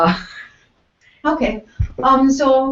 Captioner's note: laugh